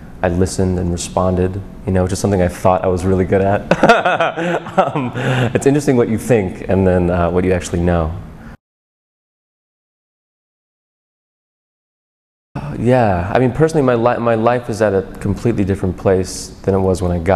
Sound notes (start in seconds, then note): 3.6 laughs